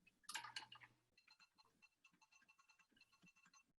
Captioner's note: typing